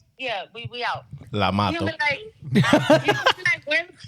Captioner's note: laughing